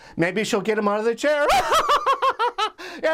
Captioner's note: laughs